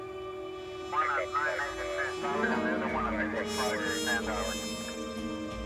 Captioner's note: garbled speaking on police radio